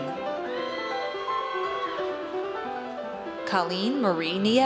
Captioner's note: audience cheers